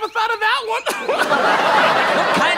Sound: audience laughs

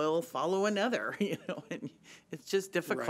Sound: laughs

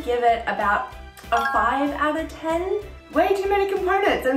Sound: bell chiming

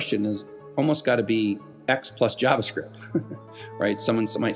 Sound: chuckles

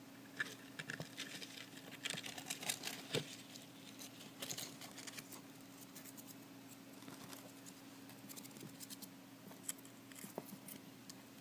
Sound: skittering noises of Q-Tip's nails on the cardboard

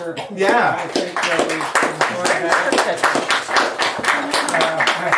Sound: audience applauding

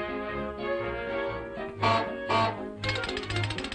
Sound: goose Honks

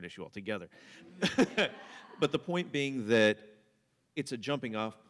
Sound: laughter

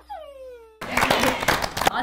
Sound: claps

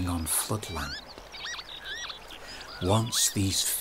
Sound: pewits cry

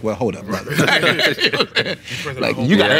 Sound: laughing

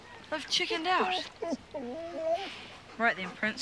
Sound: whining

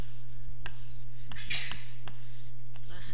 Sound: sneeze

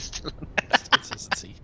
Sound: laughter

